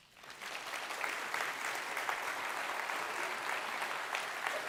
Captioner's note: audience applauds